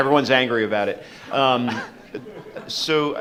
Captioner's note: audience laughs